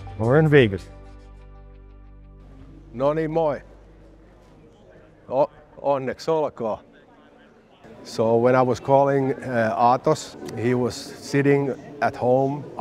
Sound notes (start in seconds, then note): 2.8 in Finnish